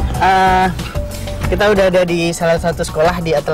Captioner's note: non-english speech